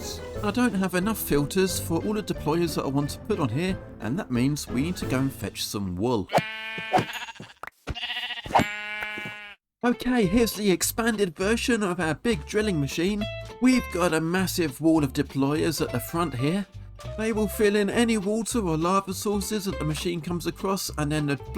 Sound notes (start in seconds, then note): 7.9 unhappy sheep noises